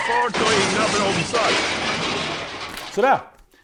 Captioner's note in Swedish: Bil kraschar